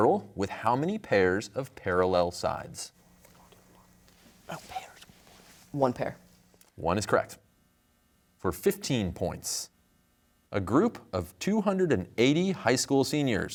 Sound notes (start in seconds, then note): 3.1 whispering